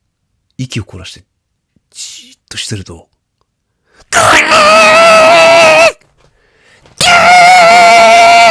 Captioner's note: scream